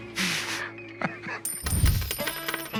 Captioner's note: chuckles